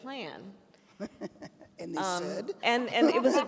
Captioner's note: laughs